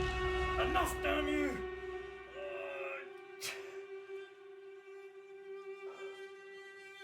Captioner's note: eerie discordant music; groaning in pain